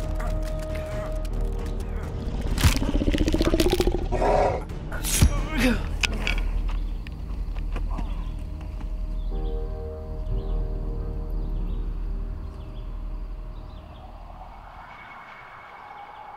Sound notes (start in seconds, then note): 12.8 wind howls